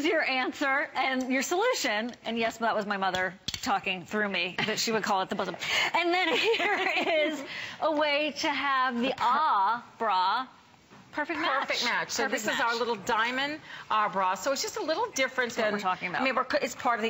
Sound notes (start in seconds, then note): 6.1 laughter